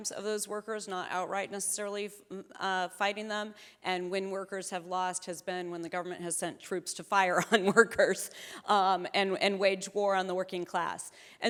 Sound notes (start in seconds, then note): 8.1 chuckling